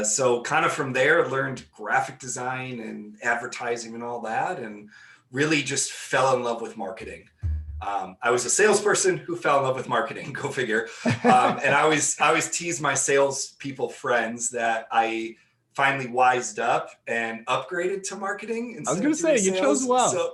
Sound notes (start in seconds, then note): 10.9 laughing